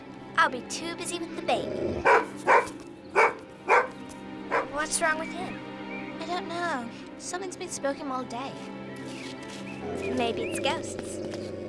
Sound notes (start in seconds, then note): 2.0 dog barking